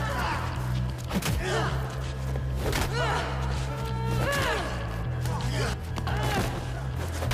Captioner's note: blows thudding; man groaning